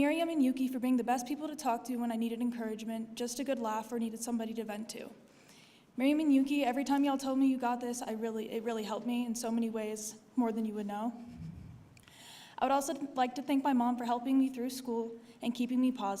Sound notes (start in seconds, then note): none